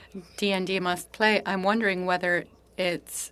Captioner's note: speaking French